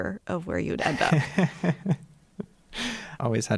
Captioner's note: laughter